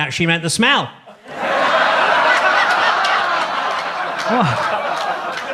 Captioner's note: audience laughs